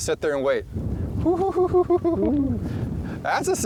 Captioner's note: laughs and whoops